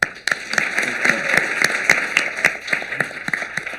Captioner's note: applause